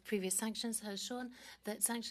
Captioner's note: speaking French